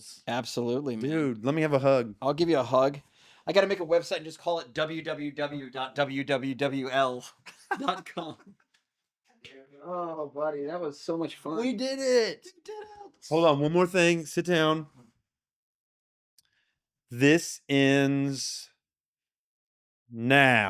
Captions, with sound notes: Absolutely, man. Dude, let me have a hug. I'll give you a hug. I gotta make a website and just call it www.wwww.com. (laughing) Oh, buddy, that was so much fun. We did it! We did it! Hold on, one more thing, sit down. This ends now.